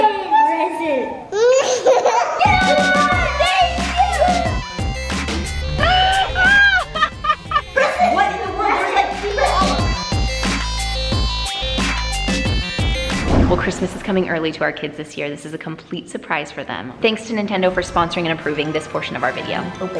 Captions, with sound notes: - It's a present. - A present! (laughs) (cheering) - Thank you! - Yeah! (upbeat music) (laughing) - Press it! - What in the world? There's like people! - Press it! - Well Christmas is coming early to our kids this year. This is a complete surprise for them. Thanks to Nintendo for sponsoring and approving this portion of our video.